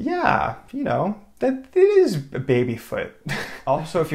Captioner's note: chuckles